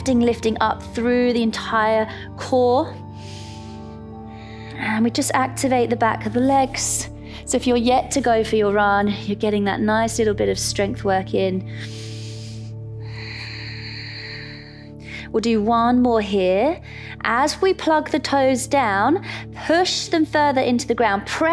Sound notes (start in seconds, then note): 3.0 inhales; 11.6 inhales; 11.6 exhales